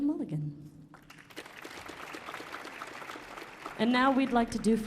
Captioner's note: audience applauding